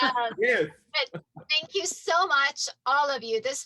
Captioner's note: laughs